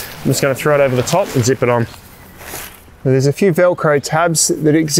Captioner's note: tent crumpling